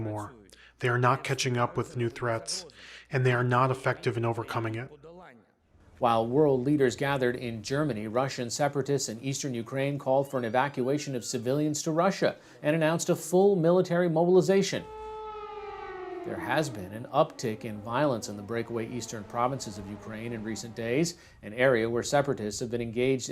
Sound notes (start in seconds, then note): 17.9 air raid siren